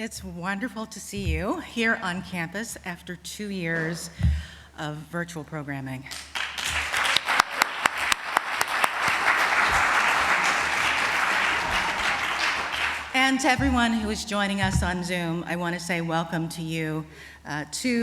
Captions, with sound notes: It's wonderful to see you here on campus after two years of virtual programming. [applause] And to everyone who is joining us on Zoom, I want to say welcome to you too.